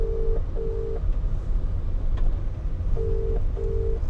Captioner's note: phone ringing